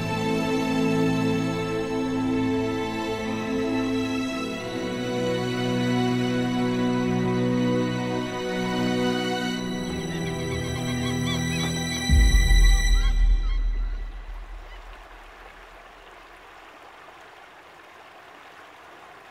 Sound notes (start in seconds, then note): 14.0 Water running